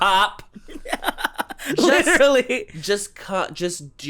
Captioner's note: laughs